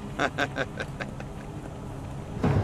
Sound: laughing

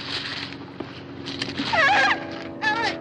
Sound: screams

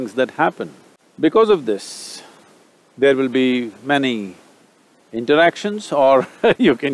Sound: laughs

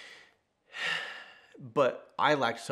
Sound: sighs

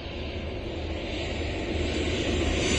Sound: airplane landing sounds

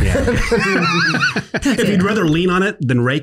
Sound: laughs

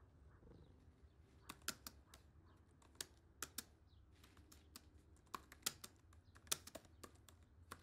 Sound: typing

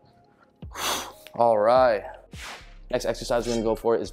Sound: exhales

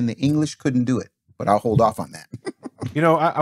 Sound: laughing

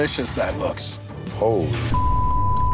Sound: beep

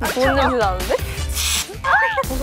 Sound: spraying

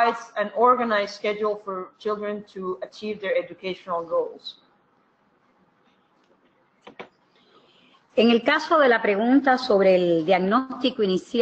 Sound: speaking another language

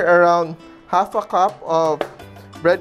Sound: knock

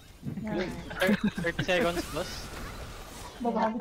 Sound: chuckles

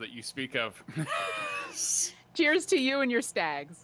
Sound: laughs

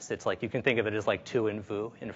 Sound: speaks in foreign language

